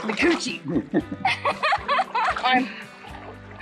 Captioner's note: laughing